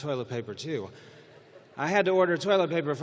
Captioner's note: laughter